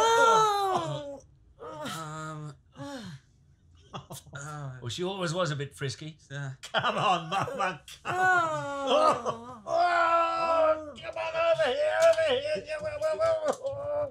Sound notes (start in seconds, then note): 0.0 Franky moans; 8.0 groans; 11.8 grunts